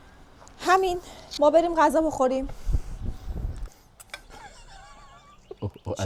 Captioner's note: laughs